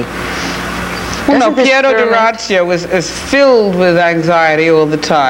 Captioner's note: speaking foreign language